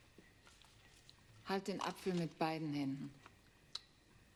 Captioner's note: speaking german